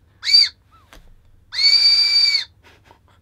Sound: whistle intensifies; whistle

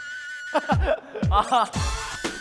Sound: laughing

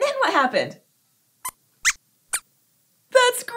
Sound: squeaks squeaks

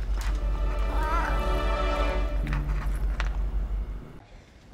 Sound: cat meows

